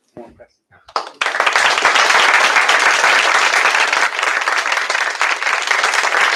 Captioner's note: applause